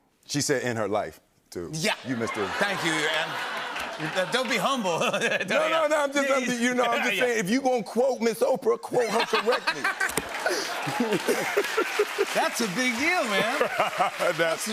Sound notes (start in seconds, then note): 2.2 laughter and applause; 9.0 laughter and applause